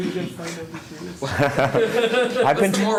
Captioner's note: laughter